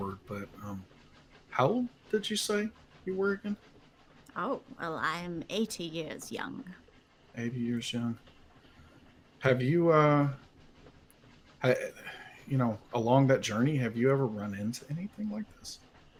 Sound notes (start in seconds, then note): none